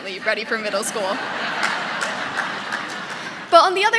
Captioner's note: audience laughing